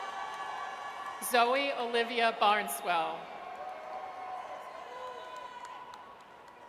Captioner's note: audience cheers; audience cheers